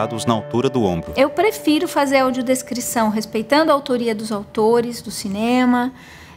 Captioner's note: bell